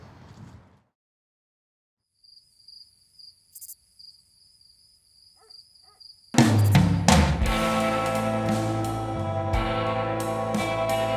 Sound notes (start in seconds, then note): 2.2 crickets chirping; 6.4 ominous music